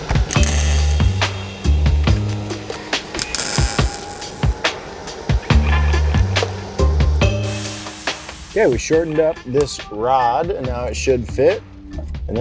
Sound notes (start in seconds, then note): 0.0 welder crackling; 0.2 moderate music; 7.4 rod sizzling